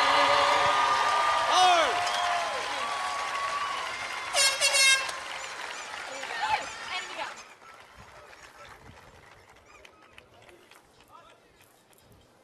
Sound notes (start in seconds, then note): 1.2 cheers and applause